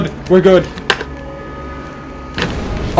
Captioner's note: metallic screeches; loud crash